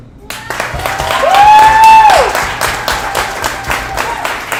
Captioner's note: audience applauds